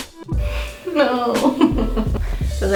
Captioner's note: laughing